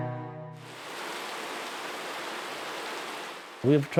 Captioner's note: rain